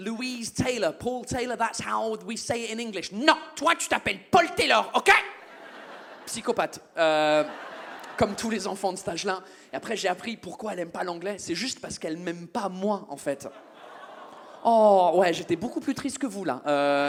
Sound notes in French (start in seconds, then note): 13.6 le public fait "aww"